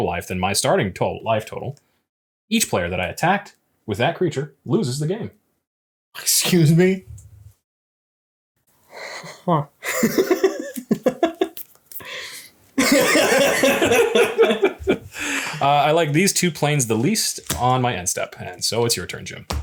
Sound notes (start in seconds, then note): 12.8 laughs